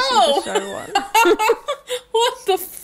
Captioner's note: laughing